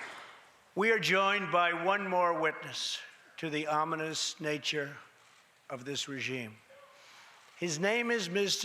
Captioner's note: applause